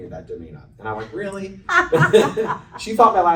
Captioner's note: laughter